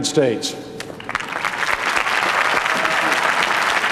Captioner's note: applause